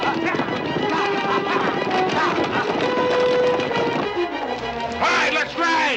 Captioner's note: men yelling